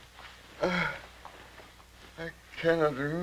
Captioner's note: groaning